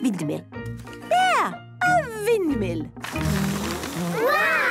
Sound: blows

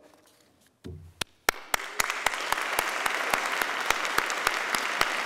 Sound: applauding

